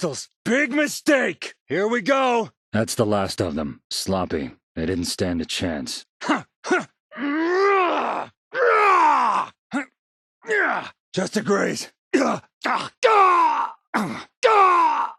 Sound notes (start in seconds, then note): 6.2 battle grunt; 9.5 battle cry; 12.1 pain grunt